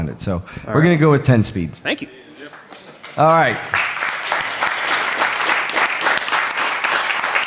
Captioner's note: applause